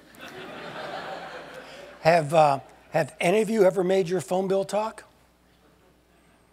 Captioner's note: laugh